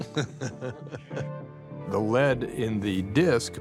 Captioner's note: laughs